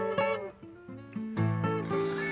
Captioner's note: pig squeals